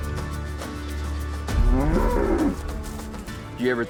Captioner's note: cows moo